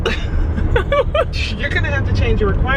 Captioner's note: laughing